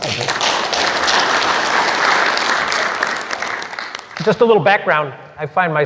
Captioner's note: applause